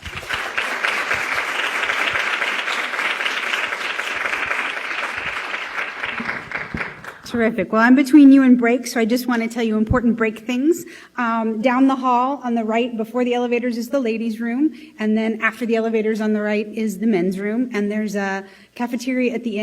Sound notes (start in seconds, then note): 2.0 applause